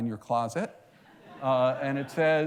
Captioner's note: laughter